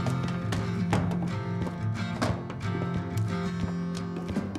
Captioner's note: books thudding